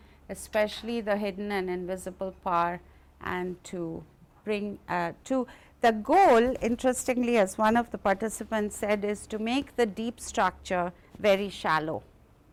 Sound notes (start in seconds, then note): none